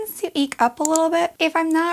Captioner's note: click